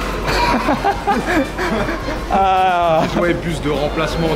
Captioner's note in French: Rires